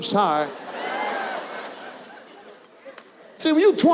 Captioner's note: audience laughs